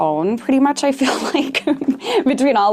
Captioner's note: laughs